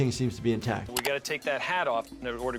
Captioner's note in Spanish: clic del mouse